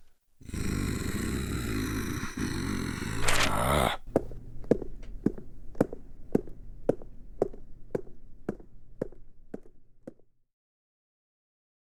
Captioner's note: von Karma growling, footsteps